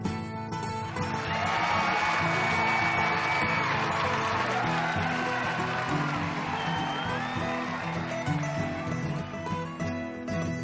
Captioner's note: applause